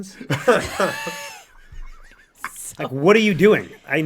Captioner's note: all laugh